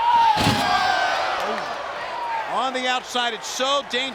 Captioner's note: steps clang